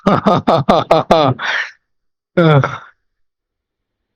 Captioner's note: laughs